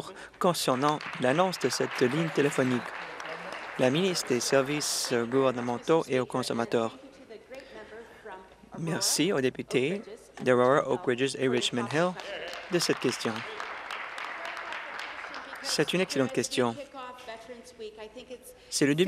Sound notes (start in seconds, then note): 4.5 applause; 17.6 applause